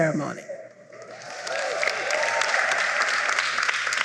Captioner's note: applause